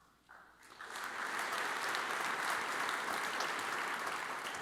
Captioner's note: audience applauds